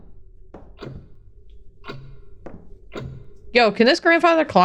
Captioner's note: clock ticking